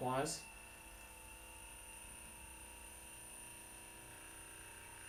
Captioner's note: Hypervolt Plus vibrating